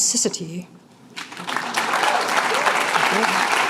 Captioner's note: applause